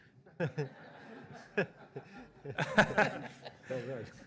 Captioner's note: laughter